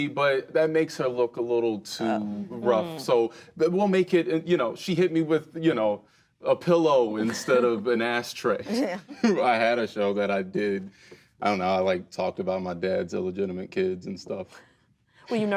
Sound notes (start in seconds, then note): 8.8 laughs